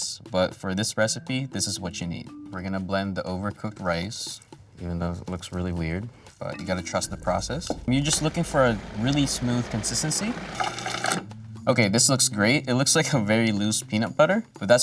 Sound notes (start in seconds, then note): 10.5 blender whirring